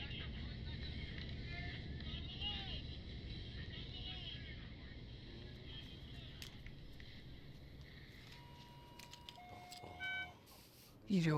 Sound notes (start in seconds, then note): 2.3 shouting; 8.2 beeping